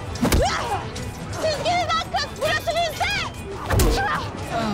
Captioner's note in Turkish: Çarpışma sesleri; Çarpışma sesleri